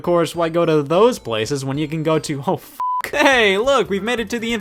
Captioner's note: beep